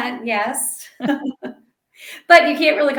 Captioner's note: both laugh